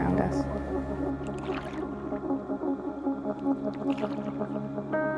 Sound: water splashing

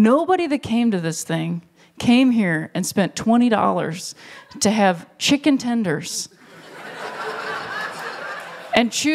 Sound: laughter

